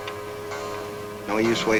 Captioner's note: clock chimes